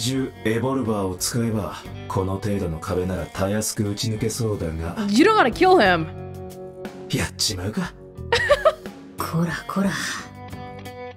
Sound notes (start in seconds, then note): 8.3 chuckles